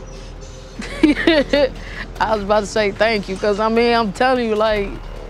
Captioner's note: laughs